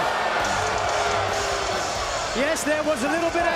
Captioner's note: crowd cheering